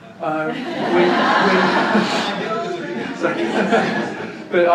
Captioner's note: big laugh from audience